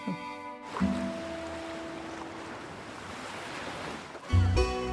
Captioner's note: waves crashing; light uplifting music